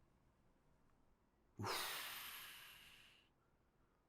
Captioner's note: sigh